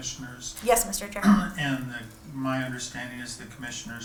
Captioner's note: clears throat